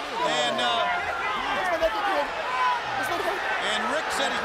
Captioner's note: crowd chatter